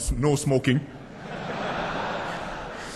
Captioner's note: laughter